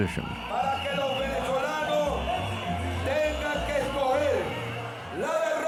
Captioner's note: speaking in Spanish